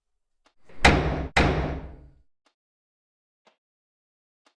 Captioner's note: hard knocking on door